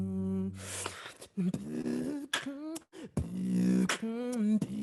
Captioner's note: beatboxing